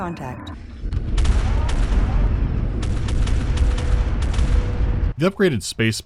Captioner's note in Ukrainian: звуки пострілів із гармат